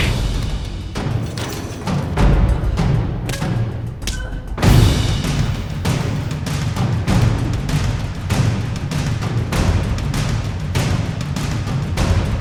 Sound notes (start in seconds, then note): 0.3 suspenseful orchestral music; 3.7 both grunting